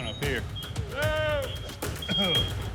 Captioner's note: coughs